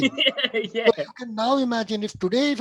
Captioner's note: gently laughs